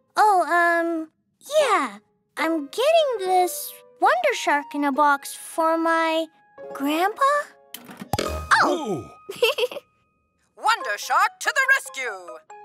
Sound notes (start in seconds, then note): 9.3 Finny giggles